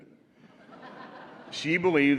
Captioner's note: laughter